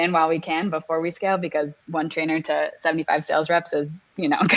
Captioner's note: laughing